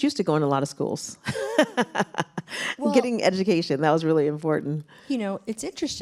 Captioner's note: laughs